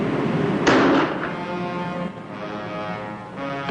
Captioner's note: gunshot ringing out; suspenseful music continues